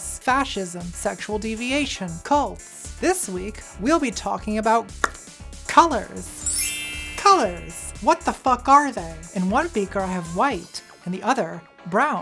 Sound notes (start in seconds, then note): 5.0 tongue pop; 6.2 bell sweep